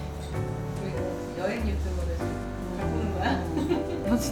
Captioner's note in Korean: 웃음